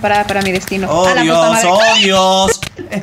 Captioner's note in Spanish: gritos de mago